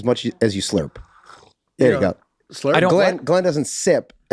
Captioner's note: Glenn slurps